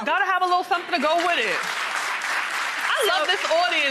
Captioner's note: applause